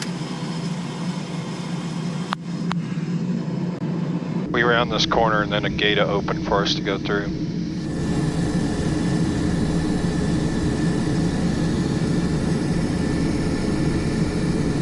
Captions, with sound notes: (engine buzzing) - We round this corner and then a gate will open for us to go through. (engine buzzing)